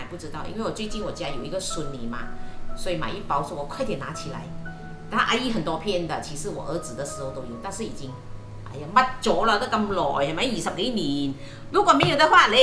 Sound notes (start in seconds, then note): 11.1 Cantonese